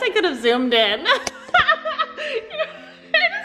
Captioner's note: laughs